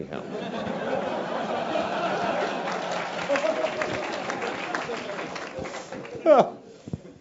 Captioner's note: laugh; applause